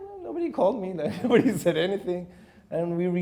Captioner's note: laughing